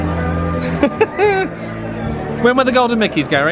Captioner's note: laughs